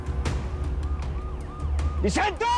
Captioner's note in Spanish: Sirenas